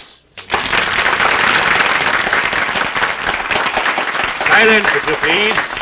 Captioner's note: applause